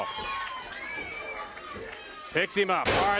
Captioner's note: crowd chatter